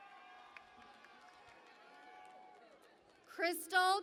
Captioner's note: cheering and Applause